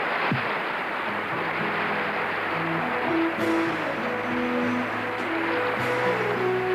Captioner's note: audience applauding; applause continues; uplifting music